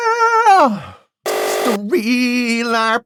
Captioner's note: buzzer